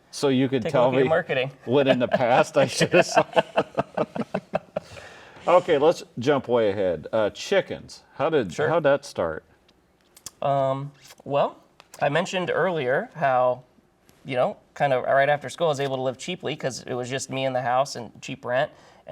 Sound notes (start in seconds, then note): 4.3 all laughing